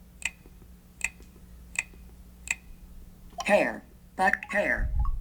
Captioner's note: clicking sound